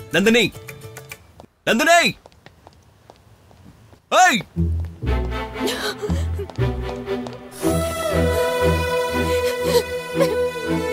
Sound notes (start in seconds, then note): 5.5 crying